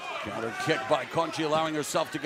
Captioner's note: crowd chatter